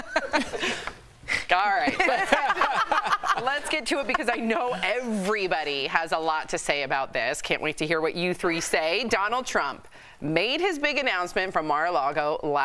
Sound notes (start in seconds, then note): 5.3 laughter